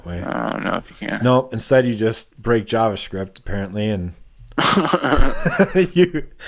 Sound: laughter

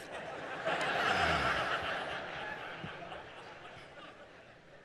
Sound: congregation laughing

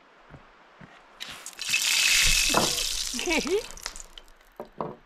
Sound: Baja Blast splashing

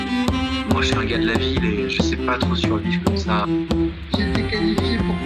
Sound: audience is speaking

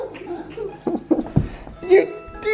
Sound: laugh

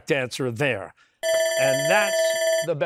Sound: bell ringing

